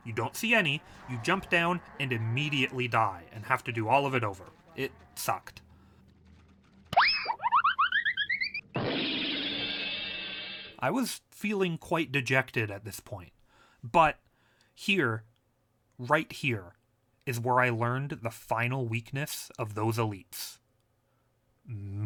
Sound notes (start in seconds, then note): 7.0 cartoon Slipping and Falling Noises; 8.6 cartoon BANG!